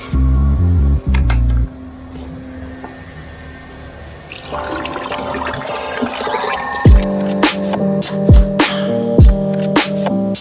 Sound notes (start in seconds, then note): 4.4 concrete pouring; 7.4 upbeat music